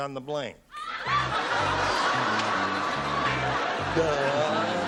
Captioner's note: laughter